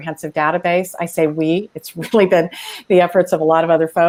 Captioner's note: laughs